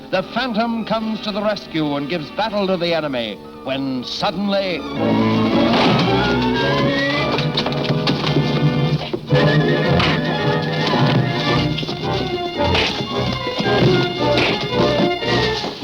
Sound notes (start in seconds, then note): 5.7 dramatic orchestral music; 5.7 fists thudding